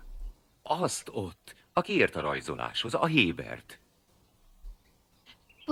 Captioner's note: none